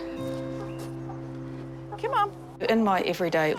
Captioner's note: chickens cluck softly